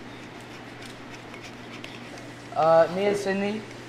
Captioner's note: peeler grating